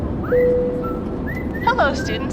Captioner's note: cabin bell chimes